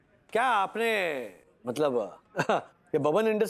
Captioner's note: soft chuckle